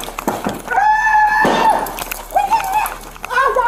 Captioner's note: woman screams